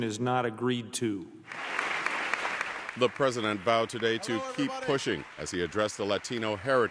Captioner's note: applause